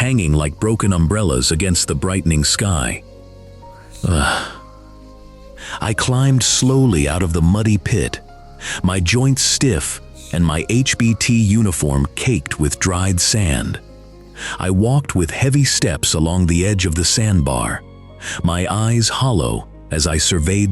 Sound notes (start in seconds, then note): 5.5 breathe; 7.0 sigh